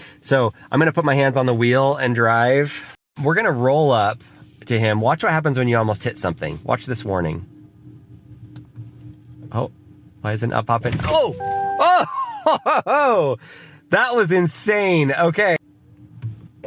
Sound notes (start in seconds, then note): 11.0 car thuds and beeps; 11.8 laughs